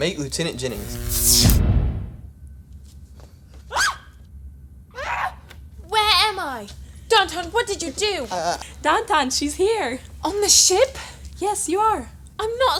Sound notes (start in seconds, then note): 3.6 screams